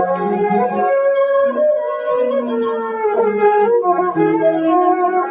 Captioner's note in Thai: ปรบมือ